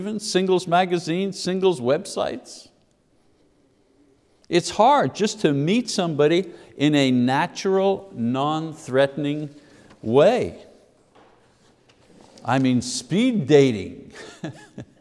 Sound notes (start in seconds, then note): 14.1 chuckling